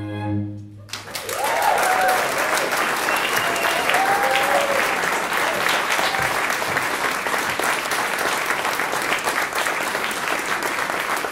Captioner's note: applause